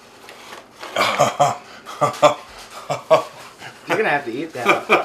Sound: laughs

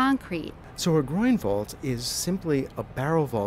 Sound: voiceover

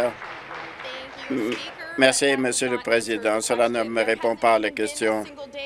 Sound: applause

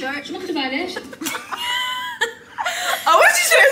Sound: laughs

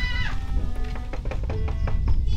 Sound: knock knock

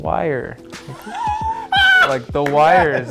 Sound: laughs

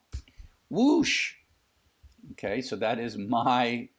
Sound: surprised noise

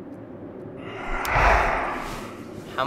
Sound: swift whoosh

